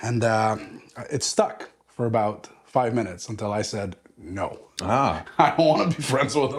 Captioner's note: laugh